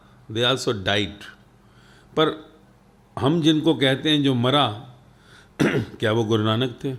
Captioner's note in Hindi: गला साफ़ करने की आवाज़